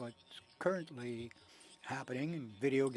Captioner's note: speaking french